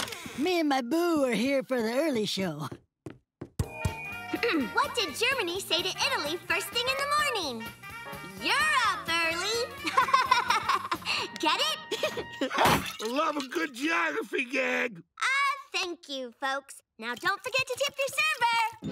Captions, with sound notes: Me and my boo are here for the early show. What did Germany say to Italy first thing in the morning? Europe early. [laughing] Get it? Love a good geography gag! Ah, thank you folks, now don't forget to tip your server.